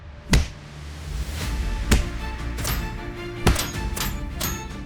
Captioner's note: armor clanking; punches thunking